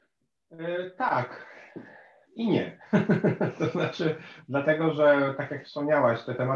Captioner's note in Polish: śmiech